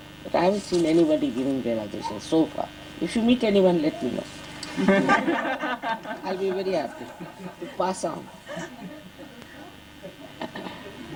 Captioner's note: laughter